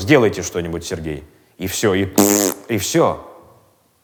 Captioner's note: blows raspberry